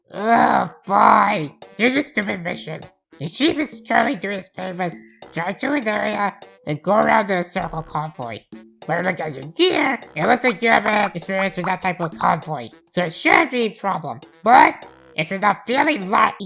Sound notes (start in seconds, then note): none